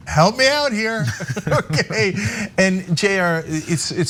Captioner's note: laugh